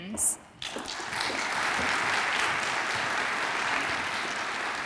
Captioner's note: audience applauds